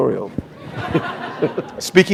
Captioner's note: laughter